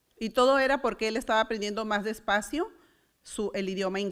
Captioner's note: foreign language